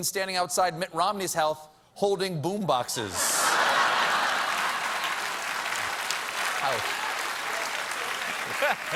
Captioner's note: applause; laughter